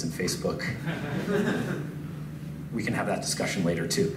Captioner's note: laughs